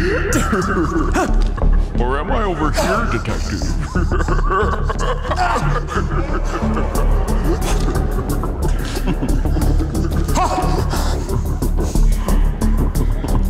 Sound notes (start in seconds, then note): 0.0 laughs; 6.1 laughs; 9.0 tense music